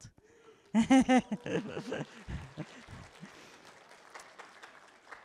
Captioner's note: applause